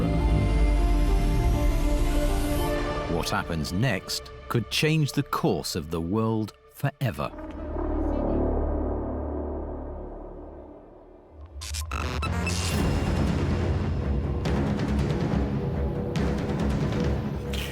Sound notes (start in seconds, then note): 0.0 tense music builds; 7.7 tense brooding music; 11.6 dramatic music; 11.9 electronic beeps trill